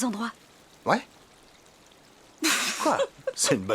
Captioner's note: laughter